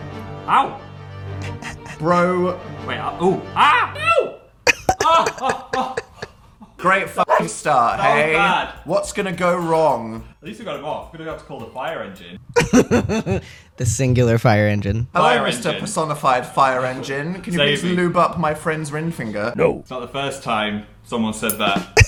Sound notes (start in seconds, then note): 3.9 pop; 12.4 laugh